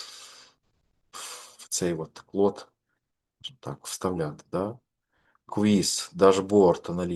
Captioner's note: sniff